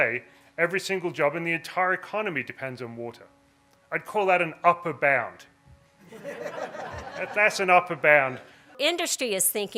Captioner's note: laughter